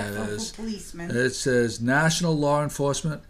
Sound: voiceover

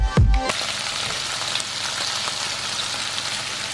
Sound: sizzling

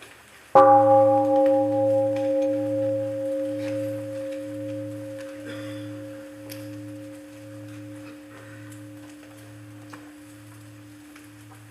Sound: one sound of bell

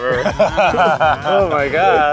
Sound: laughs

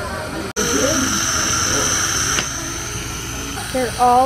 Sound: tube sucking

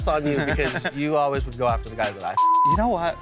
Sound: beep

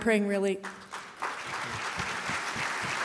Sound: applause

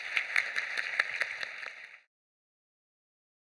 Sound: applause

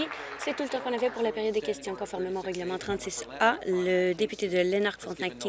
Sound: applause

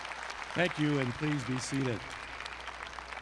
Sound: applause

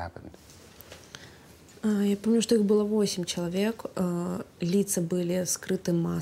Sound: speaking in foreign language

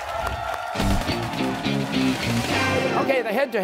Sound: cheers and applause

